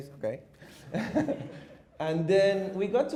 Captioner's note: audience chuckles